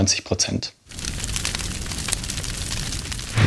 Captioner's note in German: Loderndes Knistern